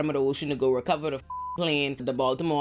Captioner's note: beep